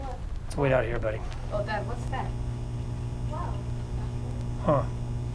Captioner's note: buzzing